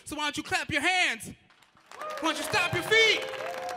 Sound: audience applauding

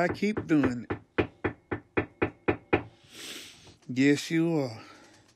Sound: hammer tapping

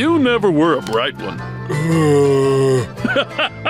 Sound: groaning; laughing

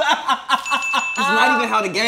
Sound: laughs loudly; bell dinging

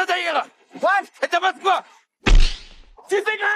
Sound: non-english speech

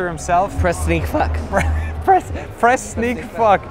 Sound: laughs

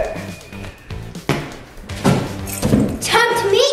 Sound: banging sounds

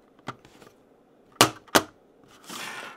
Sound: thumps

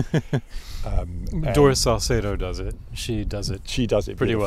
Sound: laughs

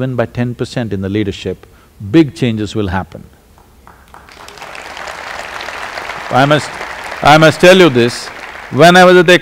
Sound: applause

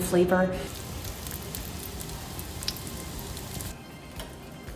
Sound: oil sizzling

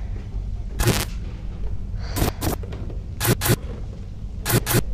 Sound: static noises

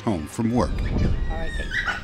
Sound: kid laughing

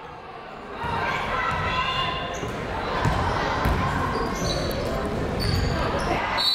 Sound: people shouting in the crowd

